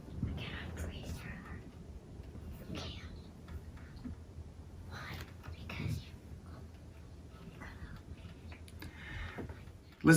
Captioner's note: whispering continues